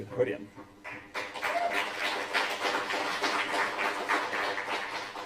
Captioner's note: applause